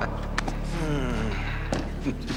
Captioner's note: Joe groans